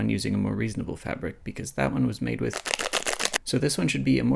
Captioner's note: crinkling sounds